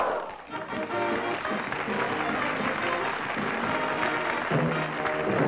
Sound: applause; upbeat music

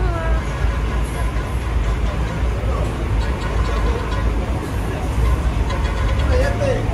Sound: bus toots

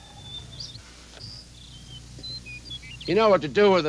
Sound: birds singing

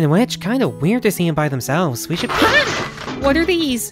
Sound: screams, sound of dozens of objects shattering

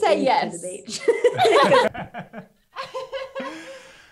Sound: all laugh

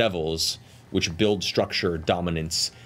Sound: none

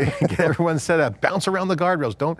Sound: laughing

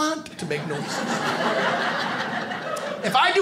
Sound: audience laughing

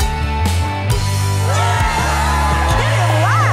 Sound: cheering

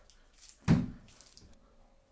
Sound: thud

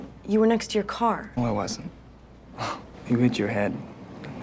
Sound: laughing

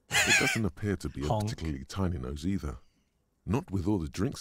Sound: laughs

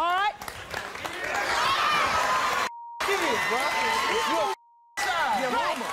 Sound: applause

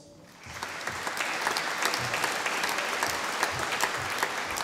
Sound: audience applauding

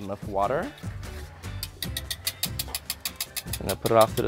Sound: whisk clattering

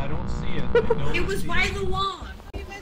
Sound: laughs

